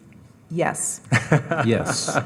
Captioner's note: laughing